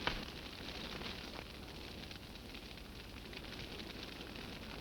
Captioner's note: flames crackling